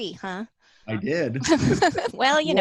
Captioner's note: giggle